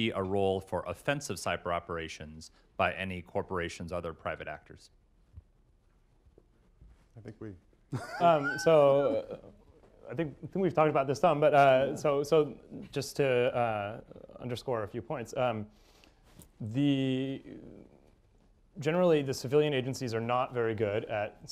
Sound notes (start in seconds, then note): 7.9 laughter